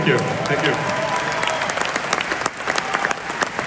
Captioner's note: crowd cheers